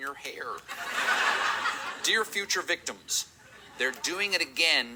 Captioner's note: laugh